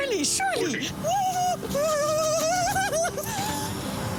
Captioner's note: laughing nervously